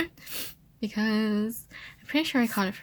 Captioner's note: sniffles